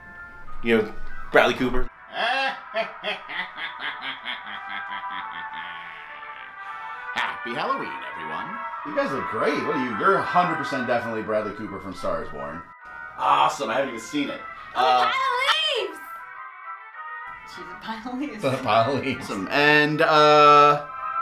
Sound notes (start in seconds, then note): 2.1 laughs